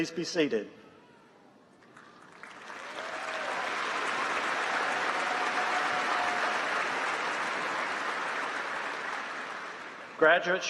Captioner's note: applause